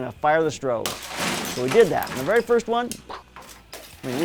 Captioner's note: bottle breaking